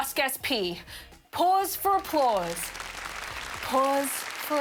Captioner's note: applause